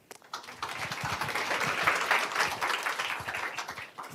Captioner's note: applause